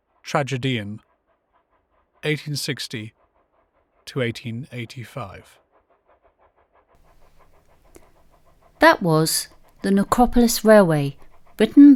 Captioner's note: sound effects steam train fade in